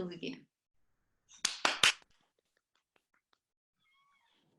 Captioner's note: applause